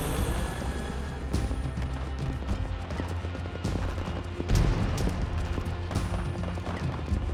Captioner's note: bombs exploding; guns firing